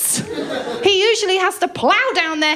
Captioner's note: laughter